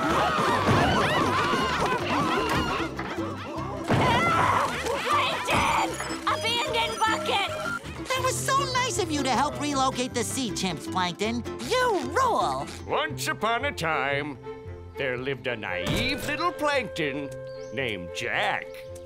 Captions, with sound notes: [chattering] [screaming] Plankton! Abandon bucket! That was so nice of you to help relocate the sea chimps, Plankton. You rule. Once upon a time, there lived a naive little plankton named Jack.